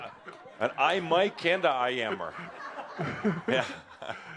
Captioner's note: more laughter; laughter